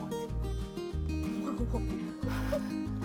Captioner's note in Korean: 웃음